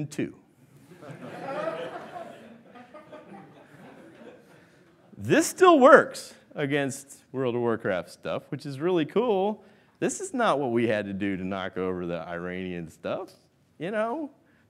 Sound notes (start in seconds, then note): 0.9 laughing